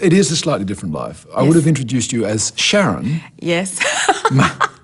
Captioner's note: laughs